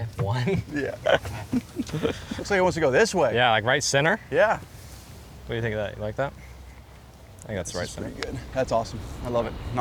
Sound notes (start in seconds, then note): 0.4 laughs